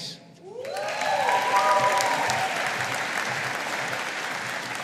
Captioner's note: audience applauding